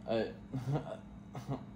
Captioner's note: laughs